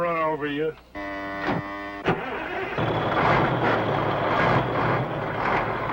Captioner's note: engine sputters and starts; truck engine whirring